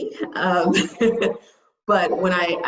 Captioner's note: laughs